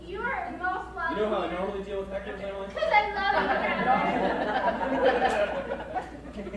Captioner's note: crowd laughs